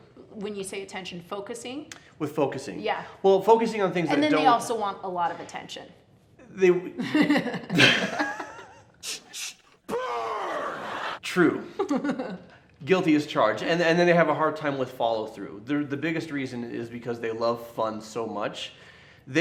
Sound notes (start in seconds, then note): 7.1 laughing; 9.9 shouts; 11.8 laughs